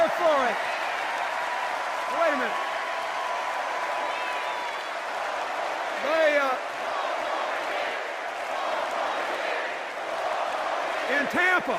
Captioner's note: sustained cheers and applause